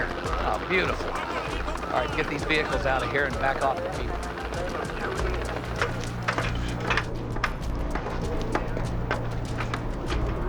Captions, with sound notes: so the fire department had the bag down there. - Oh, beautiful. All right, get these vehicles out of here, and back off the people. (helicopter whirring)